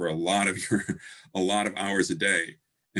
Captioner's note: chuckles